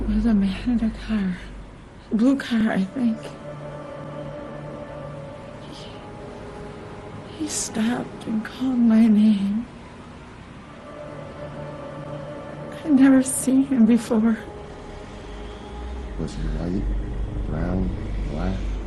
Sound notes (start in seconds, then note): none